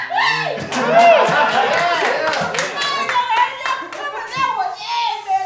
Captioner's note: applause